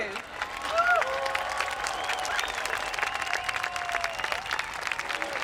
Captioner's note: applauding and cheering